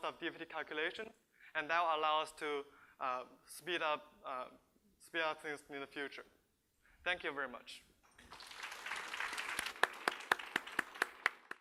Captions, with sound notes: of DFT calculation and that will allow us to speed up things in the future. Thank you very much. (applause)